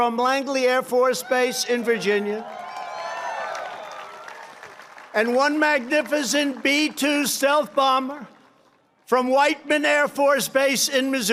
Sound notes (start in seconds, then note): 2.4 applause